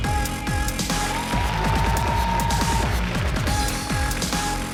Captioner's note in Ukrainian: оплески